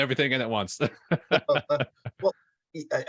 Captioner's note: chuckling